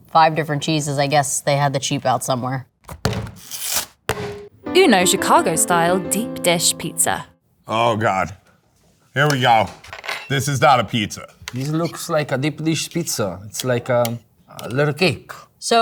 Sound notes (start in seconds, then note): 2.9 box clanging; 3.4 cardboard ripping; 4.5 cheerful music; 4.6 cheerful music ends